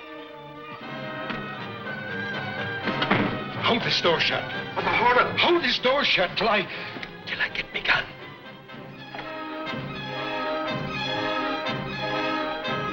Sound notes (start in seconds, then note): 2.8 door shuts; 8.5 dramatic, orchestral music